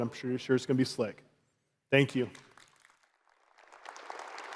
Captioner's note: applause